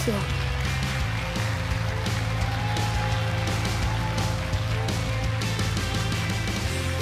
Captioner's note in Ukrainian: оплески